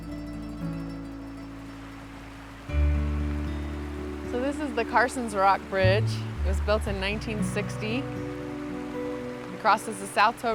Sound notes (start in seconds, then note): 1.2 rushing water